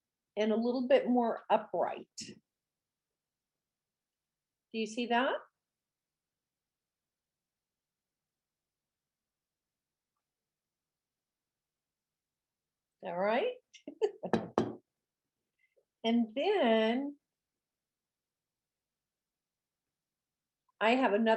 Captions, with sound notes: And a little bit more upright. Do you see that? All right (laughs). And then, I have another floret, I'm actually going